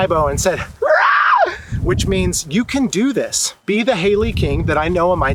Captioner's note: eagle screech